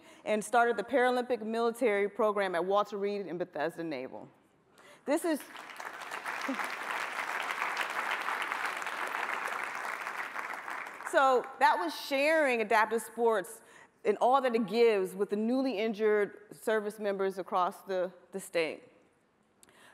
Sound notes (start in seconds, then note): 8.1 applause